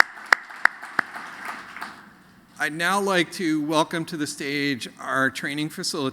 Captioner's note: applause